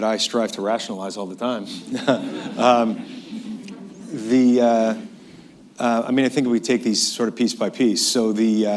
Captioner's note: laughter